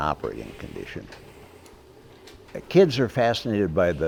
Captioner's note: machinery clanking